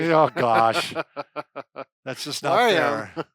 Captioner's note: laughs